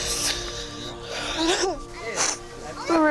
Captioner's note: sobs